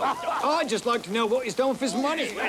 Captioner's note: laughter